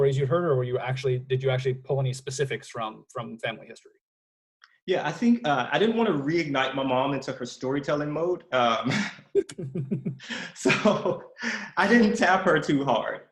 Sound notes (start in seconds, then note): 8.8 laughs